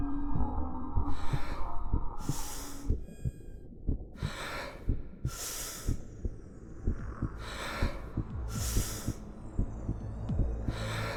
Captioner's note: deep breathing